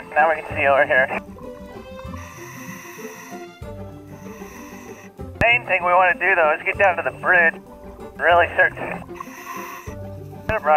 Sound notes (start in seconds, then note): 1.8 deep breathing; 9.0 deep breathing; 9.7 upbeat playful music